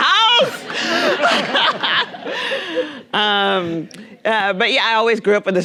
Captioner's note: Nadine laughing; audience laughing